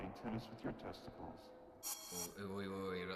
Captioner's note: zipping